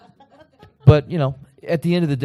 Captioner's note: laughter